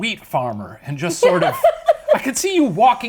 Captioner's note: laughs